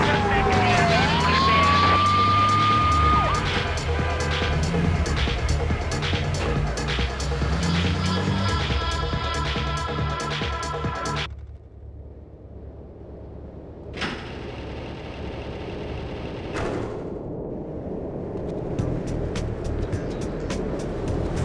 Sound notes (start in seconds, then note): 0.2 car engine roaring; 18.6 tires screeching